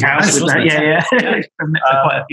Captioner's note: laughs